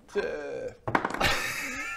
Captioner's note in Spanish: tirada de dados